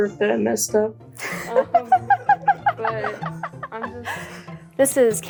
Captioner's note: laughing